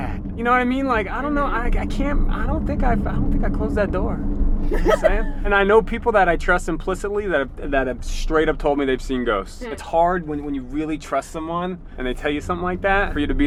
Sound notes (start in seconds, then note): 4.7 laughs